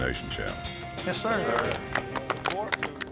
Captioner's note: clapping